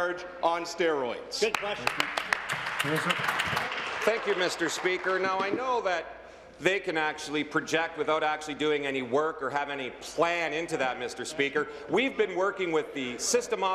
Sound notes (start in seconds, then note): 5.4 applause